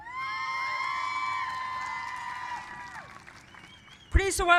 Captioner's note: cheers and applause